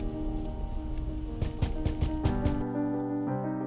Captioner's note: knocking on door